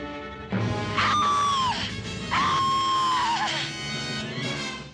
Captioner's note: screaming